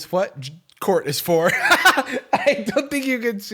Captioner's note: laughs